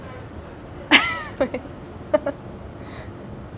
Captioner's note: laughs